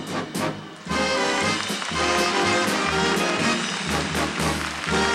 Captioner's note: applause